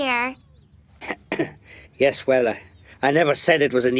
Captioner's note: clears throat